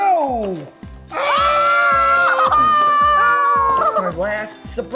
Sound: exclaiming

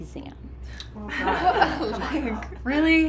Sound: sorority sisters laugh

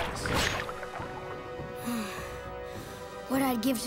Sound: sighing

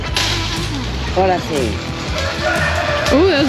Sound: speaking spanish

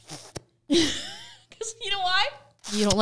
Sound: laughing

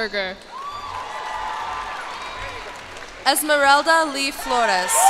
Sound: cheers and applause

